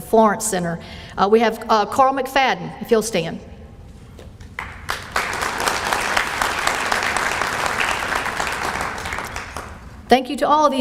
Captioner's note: appalause